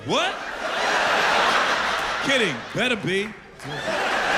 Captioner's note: laughter